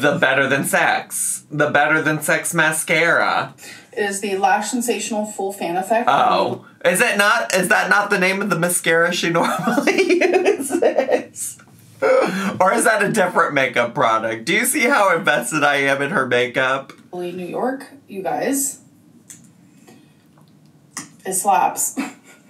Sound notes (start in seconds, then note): 9.4 laughs